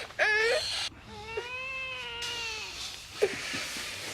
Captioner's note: whimpering